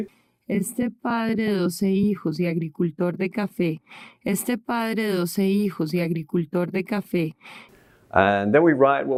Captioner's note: spanish